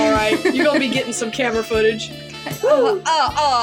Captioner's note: laugh